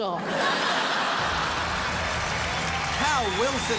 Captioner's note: crowd laughs